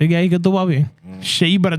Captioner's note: speaking In Foreign Language